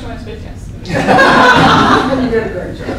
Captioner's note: laughter